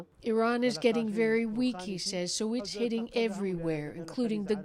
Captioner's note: speaking alternate language